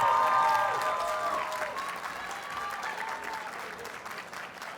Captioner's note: audience cheers and applauds